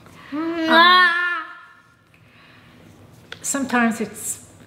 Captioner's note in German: schreit